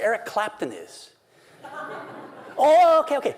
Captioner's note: laughter